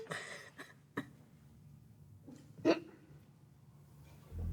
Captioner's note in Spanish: Sollozos